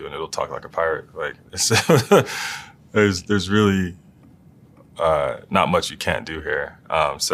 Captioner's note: laugh